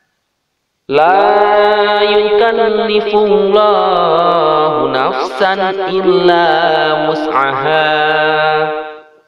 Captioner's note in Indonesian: dalam bahasa Arab